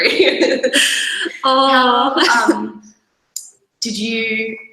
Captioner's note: laughing continues